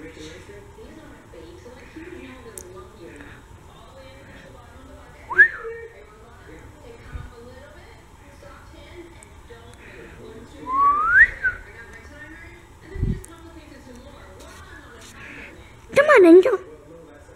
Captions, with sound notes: *whistles* *whistles* Come on, Angel!